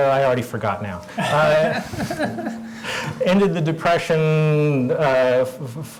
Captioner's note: laugh